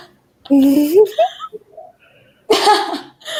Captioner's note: laughing